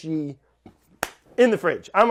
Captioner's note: claps